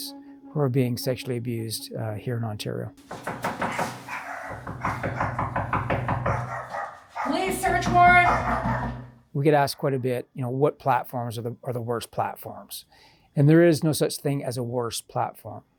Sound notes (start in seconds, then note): 3.0 knocking; 3.6 dog barking